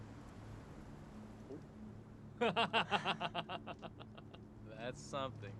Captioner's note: laughs